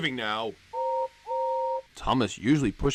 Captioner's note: Gordon's whistle blowing